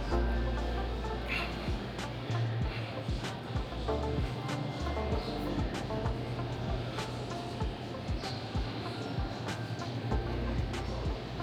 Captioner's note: children chattering